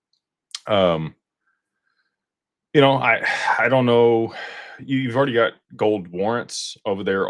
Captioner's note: sighs and gasps